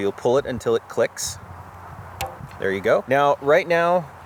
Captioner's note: quiet reverberation noise